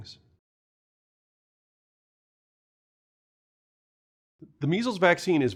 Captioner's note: no audio